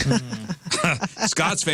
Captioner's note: laughing